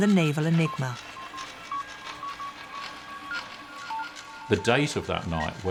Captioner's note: machine beeping